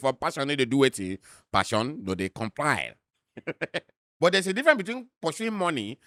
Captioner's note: chuckles